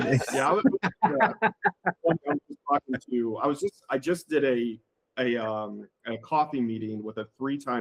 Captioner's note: laughing